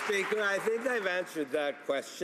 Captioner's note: some Applause